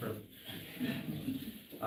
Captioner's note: laughter